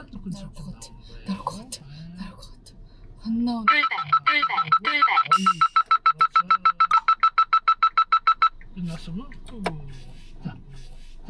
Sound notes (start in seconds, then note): 3.6 sudden warning